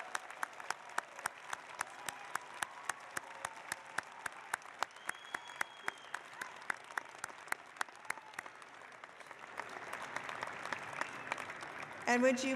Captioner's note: applause